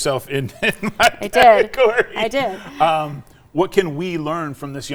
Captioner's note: laughing